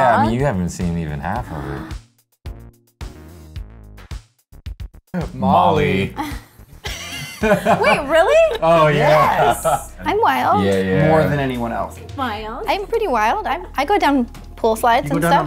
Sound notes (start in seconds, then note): 1.8 energetic music; 6.7 laughter